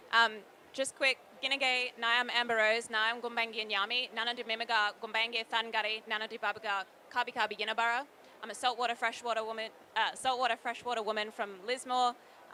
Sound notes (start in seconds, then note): 2.0 speaks indigenous language